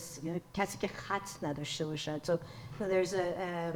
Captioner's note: speaks in foreign language